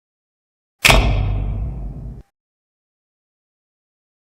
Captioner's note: old fashioned spotlight turning on